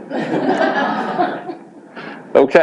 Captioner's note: audience laughs